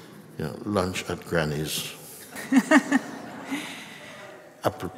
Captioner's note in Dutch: gelach